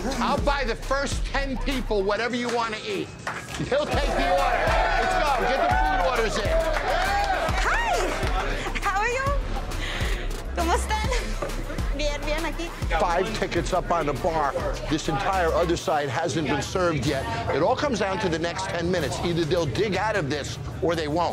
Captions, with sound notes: - I'll buy the first 10 people whatever you want to eat. He'll take the order. [cheers] Let's go. Get the food orders in. - Hi. How are you? [speaking spanish] - Five tickets up on the bar. This entire other side hasn't been served yet. It all comes down to the next 10 minutes. Either they'll dig out of this or they won't.